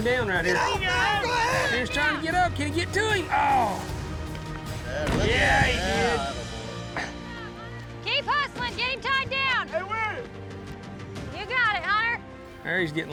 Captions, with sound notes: LET'S SEE IF HE CAN GET HIM DOWN RIGHT HERE. HE'S TRYING TO GET UP. CAN HE GET TO HIM? [THUDS DOWN] KEEP HUSTLING AND GET HIM TIED DOWN! GOOD JOB, HUNTER!